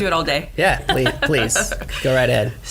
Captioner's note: laughs